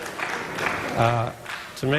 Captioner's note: applause